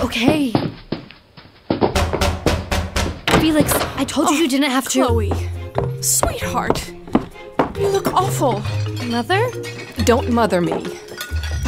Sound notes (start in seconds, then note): 0.1 footsteps; 1.7 knocking continues